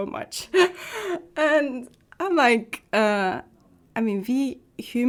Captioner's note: laughing